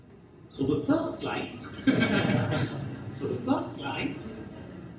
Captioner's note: everyone chuckles